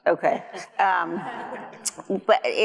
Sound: audience laughs

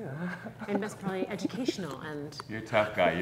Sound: chuckles

